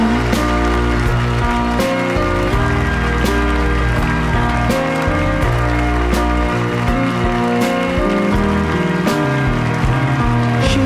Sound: crowd cheers

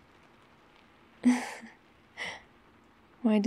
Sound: laughs

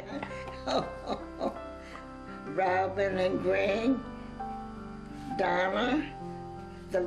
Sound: laughs

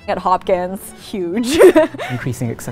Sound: laugh

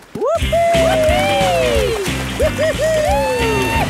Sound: both whooping

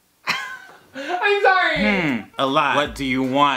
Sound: laughs

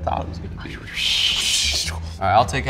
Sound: mimics whooshing

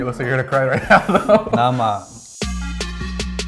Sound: laughter; techno music

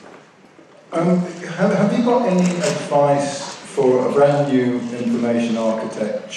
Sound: voiceover

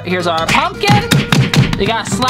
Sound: thud

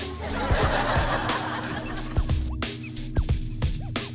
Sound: audience laughs

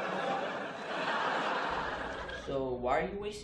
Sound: audience laughs

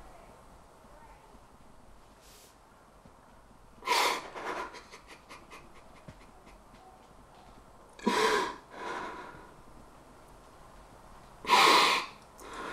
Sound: Eddie cries

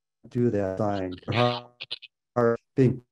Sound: connection breaks sound up

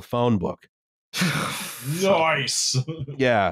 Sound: scoffs

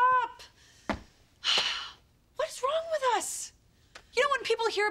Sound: sighs

